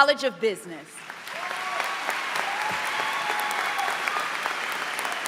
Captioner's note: applause